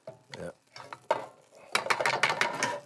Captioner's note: metal banging